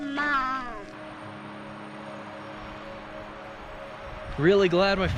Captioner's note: sound of the river